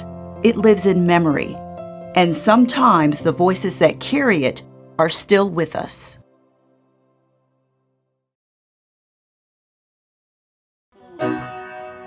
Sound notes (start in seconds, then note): 6.5 silence